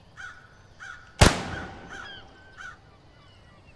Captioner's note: gunshot; birds chirping